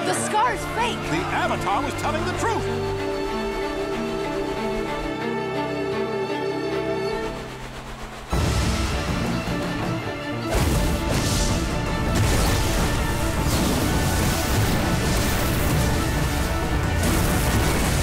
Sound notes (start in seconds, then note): none